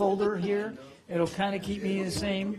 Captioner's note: laughter